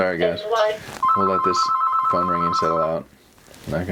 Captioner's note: telephone ringing